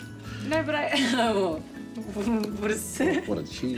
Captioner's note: laughs